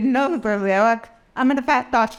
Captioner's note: laughter